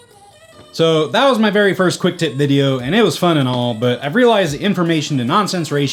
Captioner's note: laughing